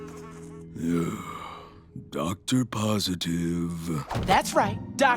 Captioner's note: sighs